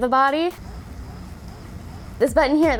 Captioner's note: swirling